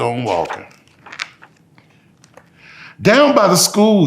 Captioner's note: pages rustling